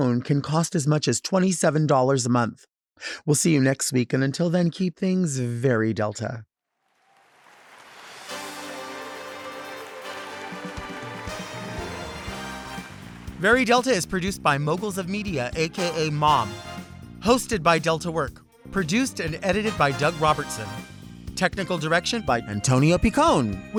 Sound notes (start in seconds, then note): 6.9 lively music; 6.9 audience clapping